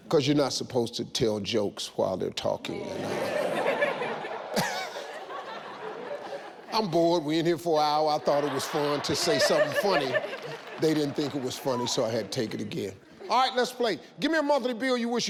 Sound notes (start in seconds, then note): 2.8 audience and Steve laughs